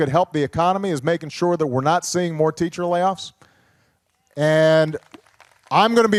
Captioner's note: applause